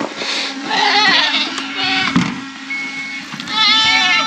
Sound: goats bleating

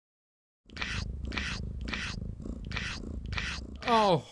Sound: jess licking sound

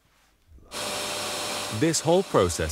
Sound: vacuum table whirring

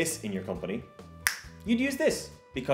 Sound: snaps

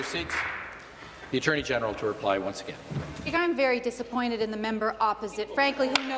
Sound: applause

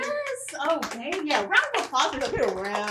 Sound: chaperone applauds

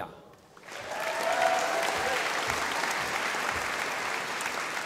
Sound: audience applauding

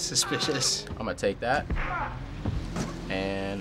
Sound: punch lands, man groans

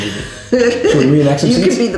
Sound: laughs

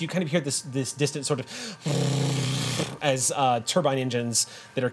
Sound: imitates motor revving

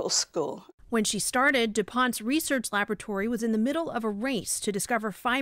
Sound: voice-over

